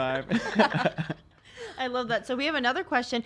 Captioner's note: laughs